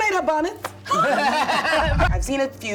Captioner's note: laughs